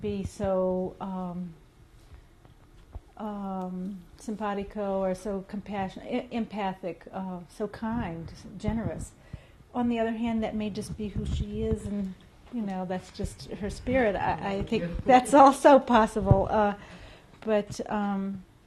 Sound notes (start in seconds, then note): 14.7 laughs